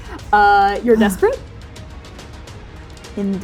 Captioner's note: beleagured sighing